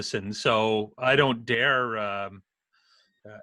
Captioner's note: laughs